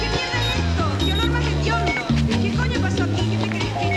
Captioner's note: beeping